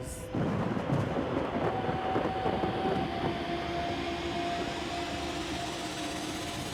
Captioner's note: suspenseful music; thunder rumbling